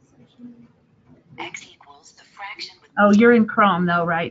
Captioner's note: automated Voice